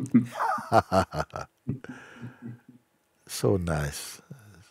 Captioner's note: und Fragender lachen